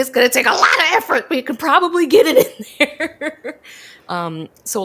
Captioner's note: laughs